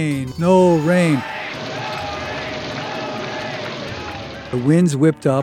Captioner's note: audience voices